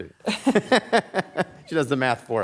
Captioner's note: panel members laughing